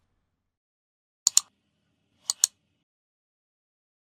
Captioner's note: clicking